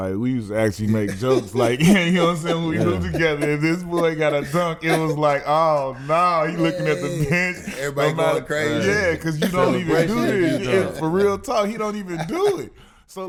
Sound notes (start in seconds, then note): 1.5 laughs; 3.2 murmurs; 7.9 laughs